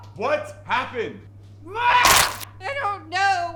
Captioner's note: yells